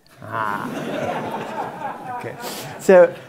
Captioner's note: laugh